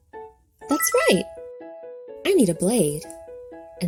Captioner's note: blade twinkling